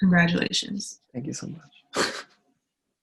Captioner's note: laughs